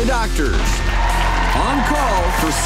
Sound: audience cheering and clapping

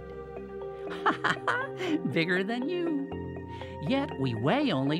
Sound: laughs

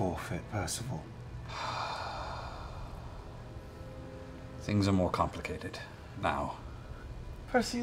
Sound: sighs heavily

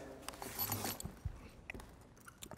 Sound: jangling

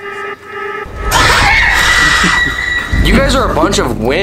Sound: suspenseful music; scream

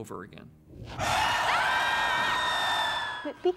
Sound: hissing; Willie screaming

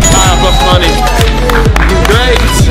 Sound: clapping

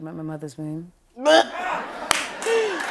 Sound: chuckling

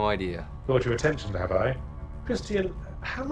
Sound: voiceover

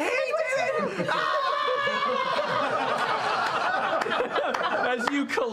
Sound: group laughter; both accusingly yelling

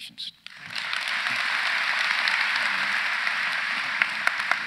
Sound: audience applauds

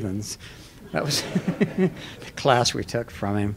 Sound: laughter

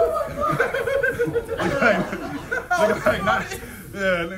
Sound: laugh

